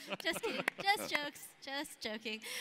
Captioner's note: laughs